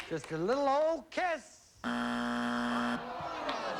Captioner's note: buzzer